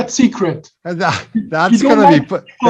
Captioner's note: giggles